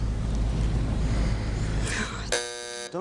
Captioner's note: buzzer sounds